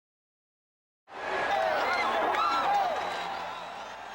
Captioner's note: audience cheering